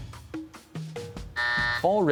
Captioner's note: buzzer sounds